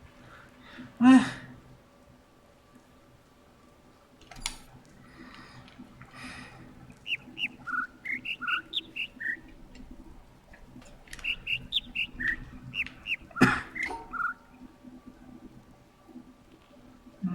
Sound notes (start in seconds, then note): 6.9 overlapping birds chirping, ˥ ˥ ˩ ˧ ˩; 11.1 overlapping birds chirping, ˥ ˥ ˩ ˧ ˩; 11.3 coughs; 17.1 attempting to imitate notes; 17.1 overlapping birds chirping, ˥ ˥ ˩ ˧ ˩